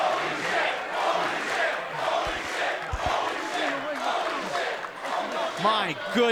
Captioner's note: fans chanting